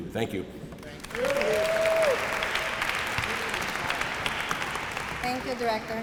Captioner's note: applause